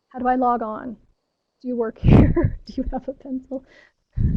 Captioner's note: laughs